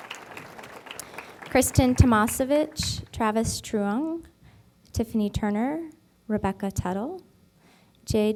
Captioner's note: applause